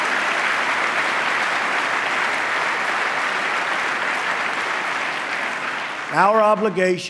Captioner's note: applause